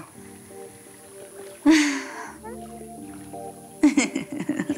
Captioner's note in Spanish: Gemido